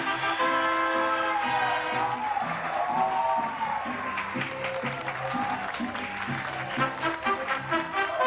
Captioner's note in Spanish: Aplausos